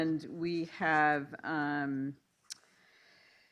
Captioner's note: none